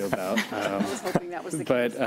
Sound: laughter

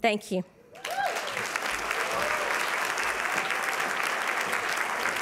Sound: applause

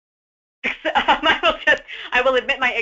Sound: laughs

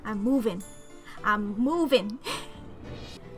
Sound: giggles

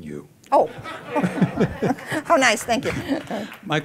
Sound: laughter

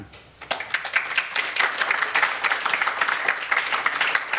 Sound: applause

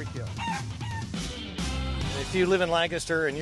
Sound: chicken clucking

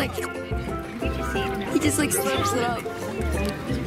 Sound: voiceover; makes fast slurping noise

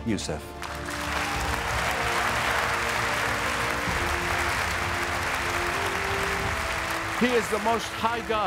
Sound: audience applauding

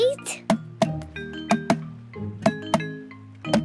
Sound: tapping

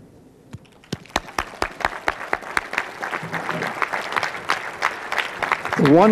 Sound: clapping

